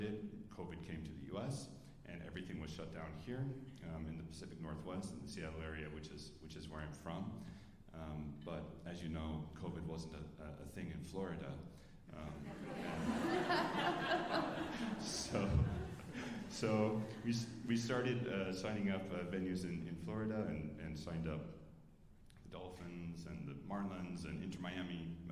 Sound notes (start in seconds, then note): 12.4 alumni laughing